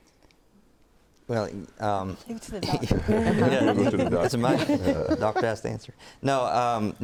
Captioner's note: laughs